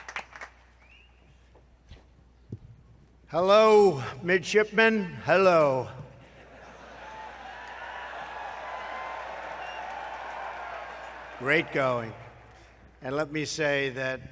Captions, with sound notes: Thank you. Thank you. Hello, midshipmen, hello. (Applause.) Great going, and let me say that --